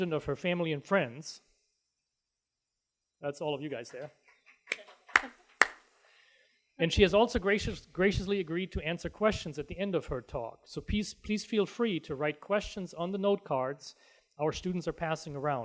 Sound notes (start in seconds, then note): 5.5 applause